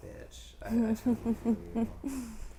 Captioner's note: chuckling